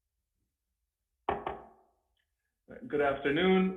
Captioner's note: gavel knocks